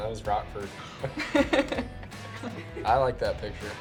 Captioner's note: woman laughs